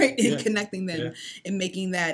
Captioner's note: laughs